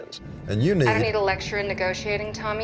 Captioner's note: on phone